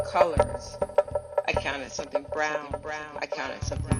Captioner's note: echoes